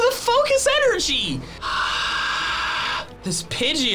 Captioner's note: sighs